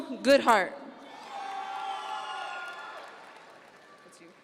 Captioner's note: audience members cheer